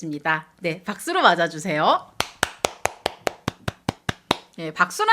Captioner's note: applause